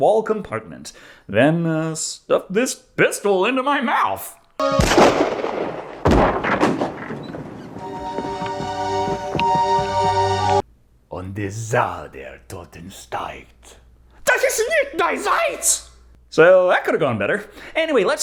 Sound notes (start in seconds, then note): 11.0 speaking German